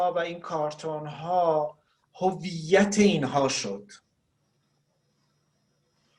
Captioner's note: speaking Farsi